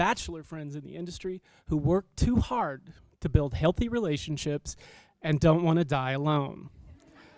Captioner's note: laughter